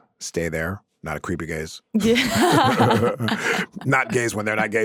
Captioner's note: laughs